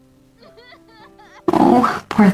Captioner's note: sound of crying